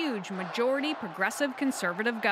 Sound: cheers and Applause

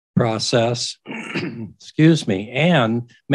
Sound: clears throat

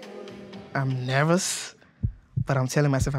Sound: heartbeat

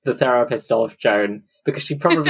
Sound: laughs

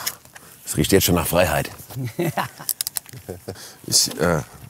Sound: laughing

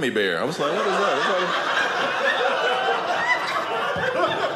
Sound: audience laughing

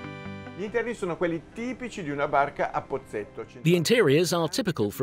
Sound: speaking in foreign language

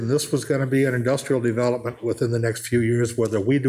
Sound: none

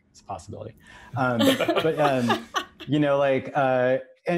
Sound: all laugh

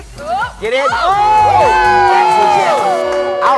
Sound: cheering

